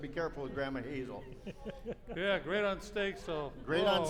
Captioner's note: laughing